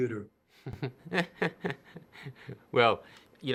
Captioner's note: laughter